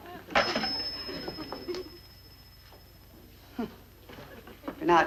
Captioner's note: bell ringing